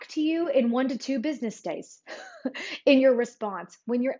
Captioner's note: chuckles